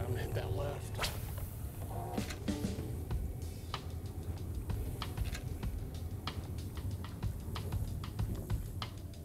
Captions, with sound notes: I'm gonna hit that left. (reel whizzes) (relaxing music)